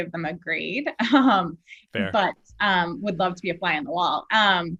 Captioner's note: laugh